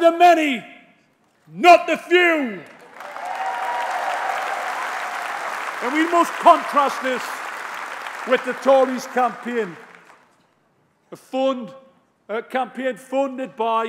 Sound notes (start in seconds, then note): 7.1 applause